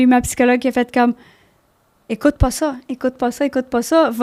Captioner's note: in french